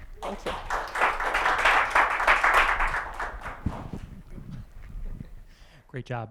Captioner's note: applause